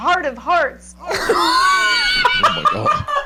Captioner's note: laughing